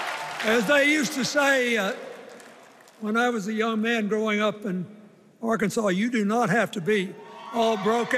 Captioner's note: cheers and applause